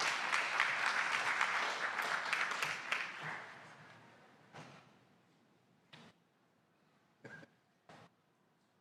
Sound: applause

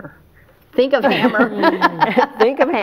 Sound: laughs

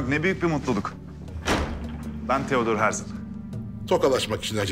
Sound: door closing sound

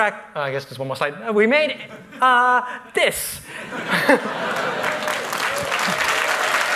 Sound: laughter

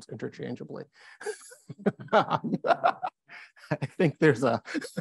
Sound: laughs

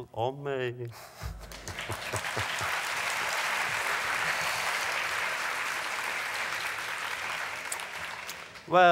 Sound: applause

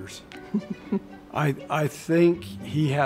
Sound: chuckling

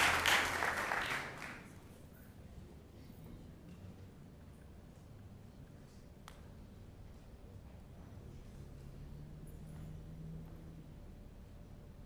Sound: applause

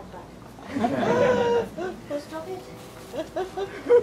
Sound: laughter

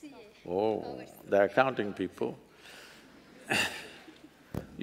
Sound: laughs

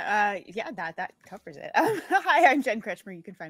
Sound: laughs

